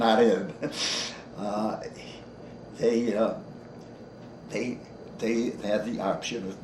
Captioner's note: chuckles